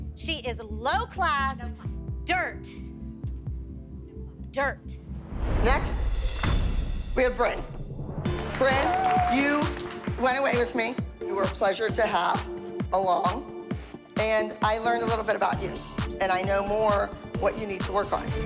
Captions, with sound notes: She is low class dirt. Dirt. Next... we have Brynn. (cheering) Brynn, you went away with me. You were a pleasure to have along, and I learned a little bit about you, and I know more what you need to work on.